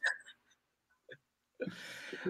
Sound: chuckle

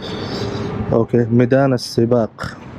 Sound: Arabic

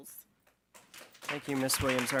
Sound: audience clapping

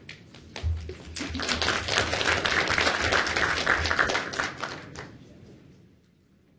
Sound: crowd applauds

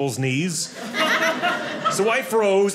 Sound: audience laughing

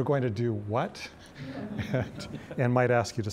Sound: audience laughing

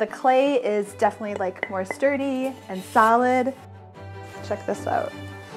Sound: hand knocking plate

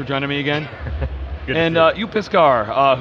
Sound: laughs

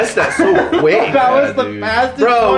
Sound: laughter

